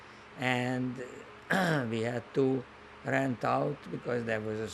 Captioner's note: clears throat